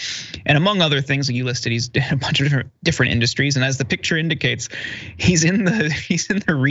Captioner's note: laugh